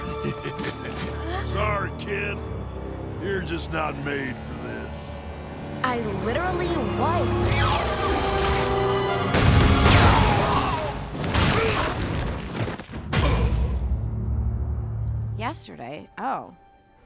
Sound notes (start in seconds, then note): 0.0 laughs; 7.9 dramatic music; 9.3 explosion booms; 9.7 Killcannon thuds